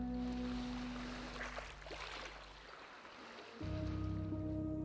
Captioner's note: water lapping shore; pensive music